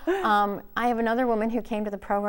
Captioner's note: laughing